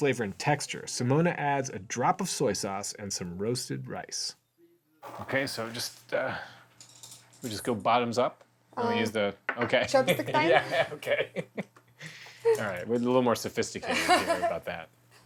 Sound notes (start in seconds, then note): 10.1 both laughing; 13.9 laughs